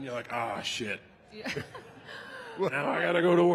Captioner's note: laughs